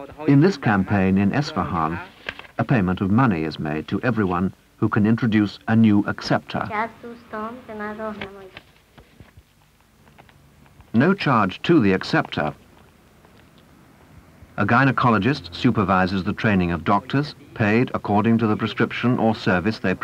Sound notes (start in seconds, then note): 8.0 footsteps